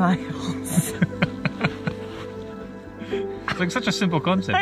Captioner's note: laugh